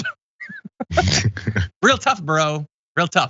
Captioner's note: laugh